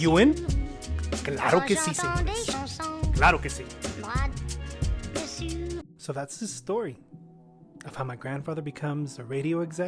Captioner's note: Spanish